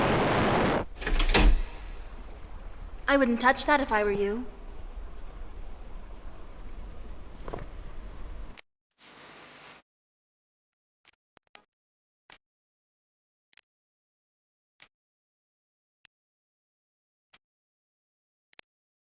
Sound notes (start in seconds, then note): 0.9 lever clicking